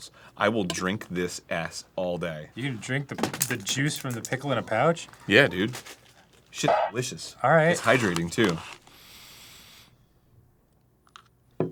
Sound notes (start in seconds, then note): 8.8 expectant sniff